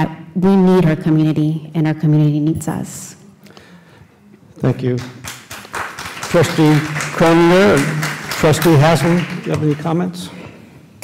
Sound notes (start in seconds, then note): 4.8 applause